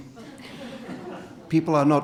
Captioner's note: audience laughing